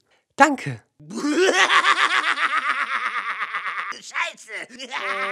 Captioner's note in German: creepy Lachen 2.0